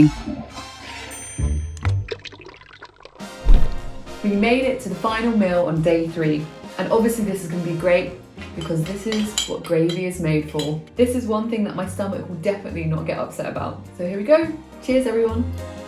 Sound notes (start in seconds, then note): 0.2 toilet flushes; 1.1 triangle dings; 2.0 viscous liquid pouring; 3.4 air whooshes